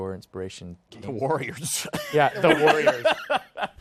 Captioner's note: laughs